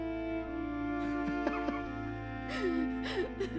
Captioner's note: laughing; melancholy music playing